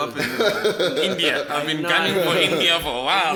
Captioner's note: everybody laughs